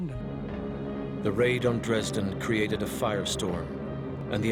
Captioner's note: voiceover